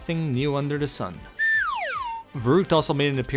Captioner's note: slide whistle